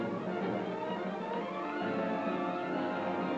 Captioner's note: horses galloping; solemn music